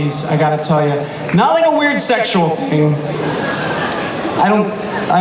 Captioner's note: audience laughter